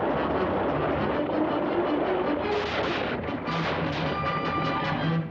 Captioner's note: backfiring